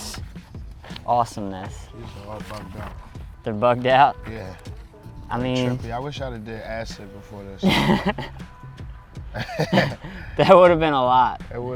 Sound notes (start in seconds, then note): 9.3 laughter